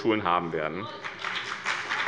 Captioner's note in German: Beifall bei dem BÜNDNIS 90/DIE GRÜNEN und der CDU